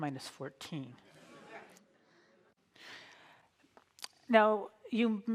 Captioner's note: audience laughs